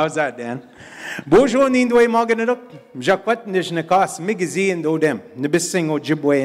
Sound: in Indigenous language

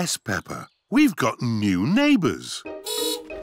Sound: horn beeps

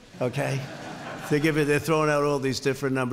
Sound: laughter

